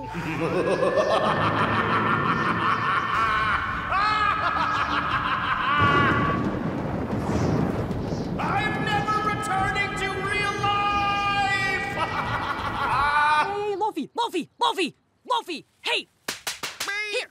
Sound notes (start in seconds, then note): 0.0 maniacal laughter; 6.0 thunder crashing; 11.6 laughs; 16.4 smacking